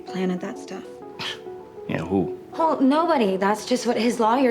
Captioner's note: scoffs